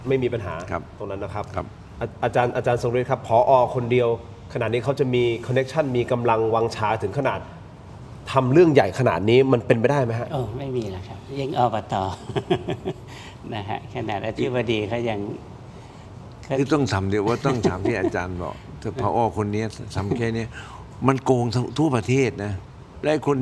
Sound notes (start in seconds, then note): 12.1 laughter